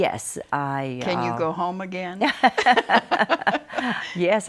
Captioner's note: both laughing